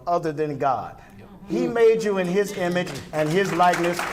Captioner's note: clapping